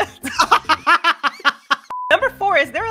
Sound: laughter

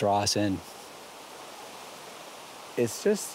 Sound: flowing water

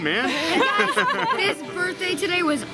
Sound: laughing

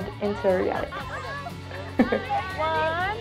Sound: laughter

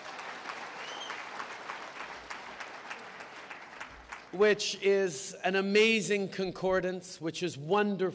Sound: applause

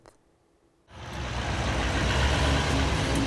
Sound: truck engine roaring; upbeat music

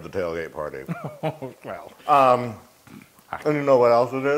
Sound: laugh

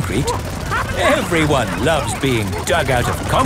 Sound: all laughing

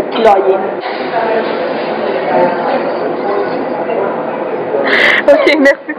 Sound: laughter

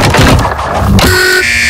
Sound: buzzer

